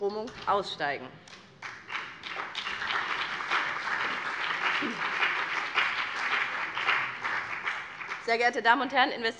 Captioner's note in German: Beifall BÜNDNIS 90/DIE GRÜNEN und CDU